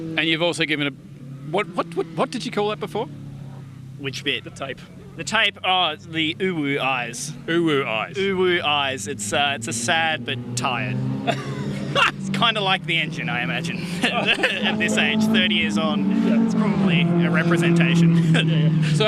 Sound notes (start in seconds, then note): 11.2 laughs; 13.6 laughs